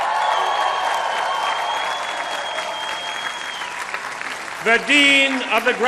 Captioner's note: cheering